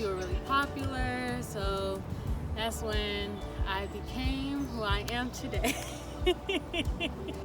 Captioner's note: claps; laughs